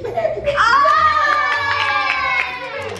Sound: cheering

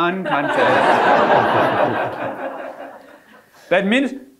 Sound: audience laughing

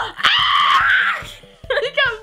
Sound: screaming

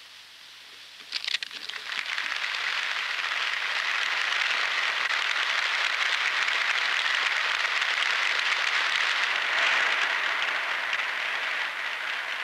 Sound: applause

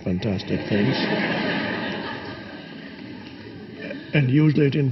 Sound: audience laughing

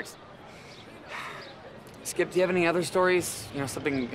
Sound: sighing

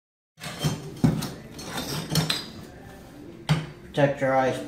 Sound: tiles and tools clinking

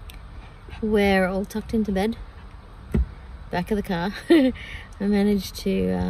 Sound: chuckles

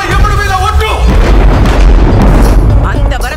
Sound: thunder rumbling

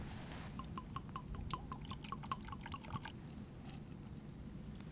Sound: liquid pouring

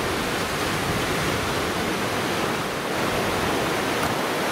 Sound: waves crashing

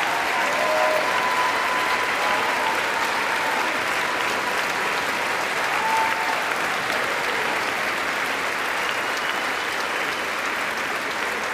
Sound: applause

